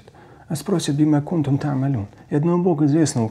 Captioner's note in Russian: говорит на арабском